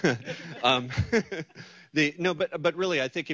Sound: laughter

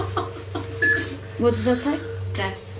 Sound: loud beeping

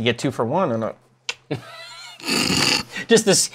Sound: laughs

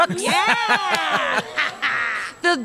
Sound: cheering

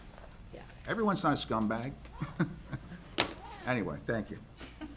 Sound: laughs

